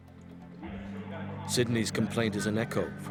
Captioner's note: voiceover